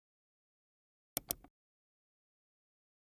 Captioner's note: mouse clicks